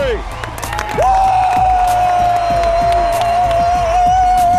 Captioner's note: cheers